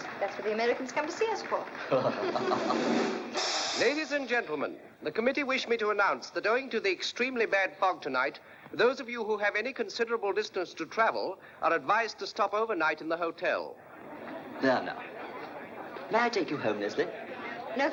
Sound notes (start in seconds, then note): 1.8 both laughing; 2.0 drumroll